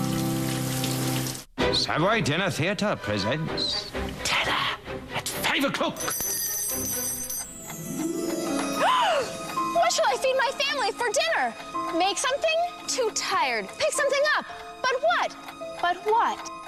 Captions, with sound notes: TERROR AT 5 O' CLOCK! ( bell ringing ) ( gasps ) WHAT SHALL I FEED MY FAMILY FOR DINNER? MAKE SOMETHING? TOO TIRED. PICK SOMETHING UP? BUT WHAT?